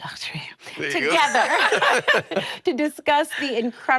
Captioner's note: laughter